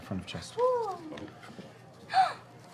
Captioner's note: gasps